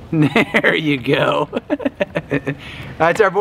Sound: laughs

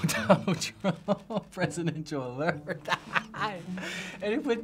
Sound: laughing

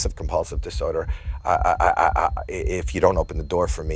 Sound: stammers

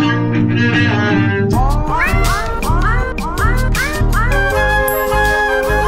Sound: cats meow melodically

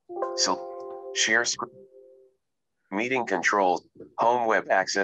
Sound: recorded Voice

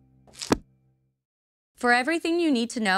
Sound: cover thuds

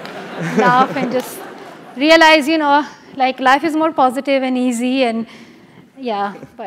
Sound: laugh

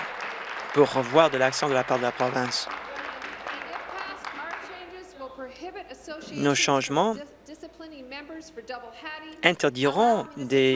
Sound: applause

